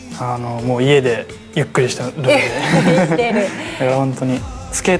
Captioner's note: laughs